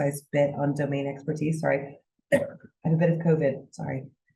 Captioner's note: coughs